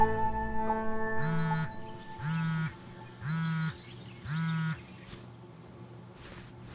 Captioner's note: dramatic music increases; clock ringing; cellphone vibrating